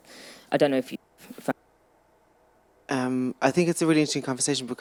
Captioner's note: audio cutting out